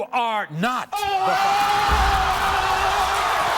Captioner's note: screaming